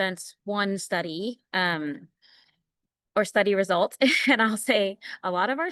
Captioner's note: laughter